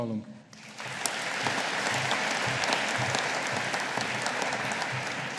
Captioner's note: audience applauding